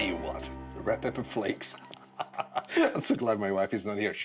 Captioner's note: laughs